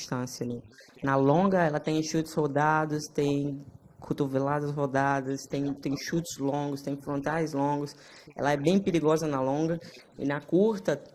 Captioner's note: speaking foreign language